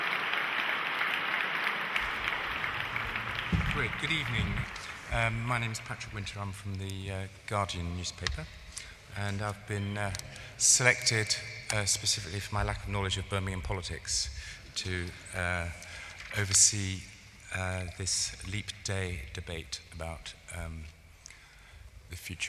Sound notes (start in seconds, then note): 9.0 applause